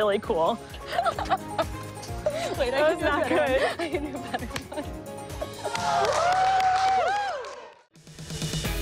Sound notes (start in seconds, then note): 0.8 laughter; 0.8 laughing; 5.5 cheers and applause